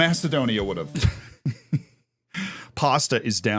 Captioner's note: laughs